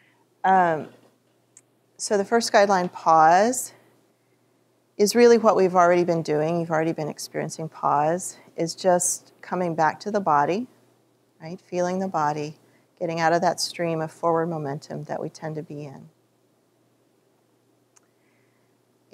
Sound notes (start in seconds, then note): none